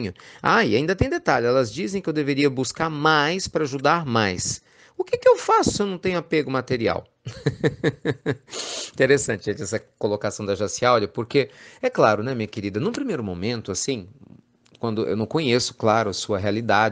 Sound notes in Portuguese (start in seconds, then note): 7.2 Risos